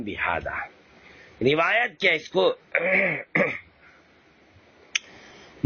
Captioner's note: clears throat